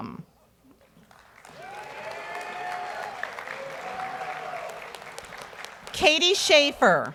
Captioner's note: audience cheers and applauds